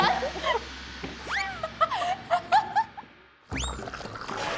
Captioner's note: everyone laughs their heads off